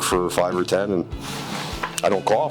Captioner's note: lips smacking; shirt rustling